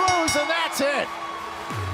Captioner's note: bell ringing